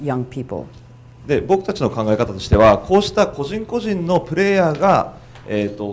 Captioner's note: speaking foreign language